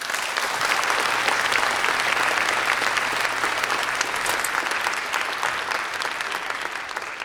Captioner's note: applause